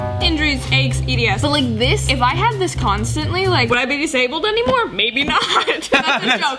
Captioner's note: everyone laughs